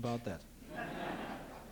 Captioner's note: laughter; non-english speech